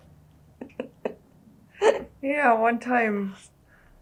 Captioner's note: laughs